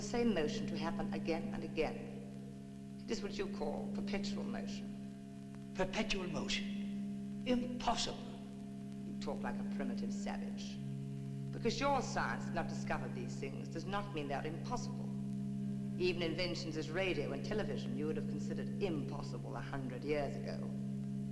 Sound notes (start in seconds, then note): none